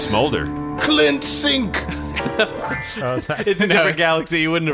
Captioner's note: laughing